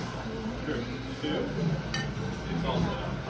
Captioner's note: clink